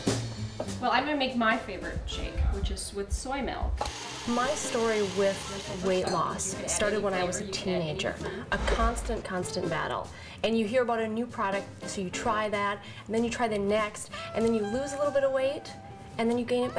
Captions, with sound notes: I'm gonna make my favorite shake, which is with soy milk. [ Woman Narrating ] My story with weight loss started when I was a teenager. A constant, constant battle. And you hear about a new product, so you try that. Then you try the next. Then you lose a little bit of weight, and then you gain it back.